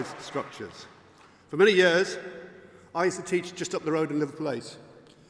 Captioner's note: applause